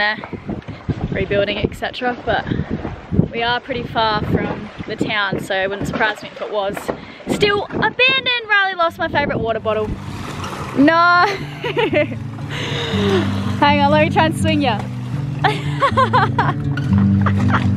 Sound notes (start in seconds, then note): 11.2 laughing; 15.4 laughing; 17.5 upbeat guitar music